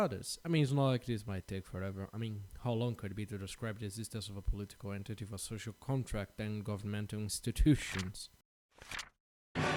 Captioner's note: page Flip